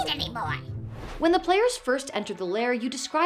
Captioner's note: whoosh